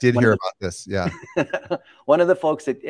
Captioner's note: laughs